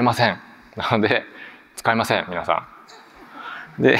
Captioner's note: chuckles